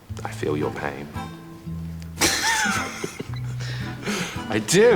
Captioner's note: both laugh